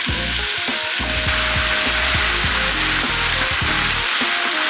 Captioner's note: sizzling sounds